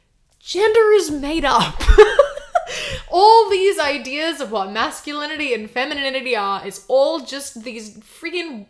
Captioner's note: laughs